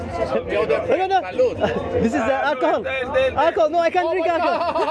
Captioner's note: laughs